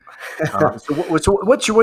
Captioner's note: laughs